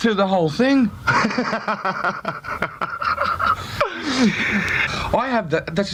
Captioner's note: interviewer laughing